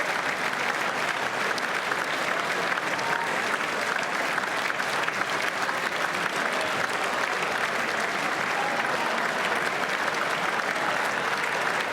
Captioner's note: applause; cheers